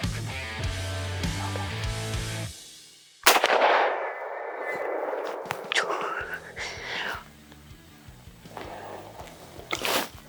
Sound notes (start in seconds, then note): 3.2 rifle bangs